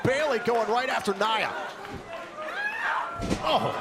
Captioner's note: crowd cheering